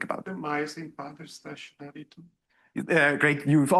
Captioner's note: student speaking faintly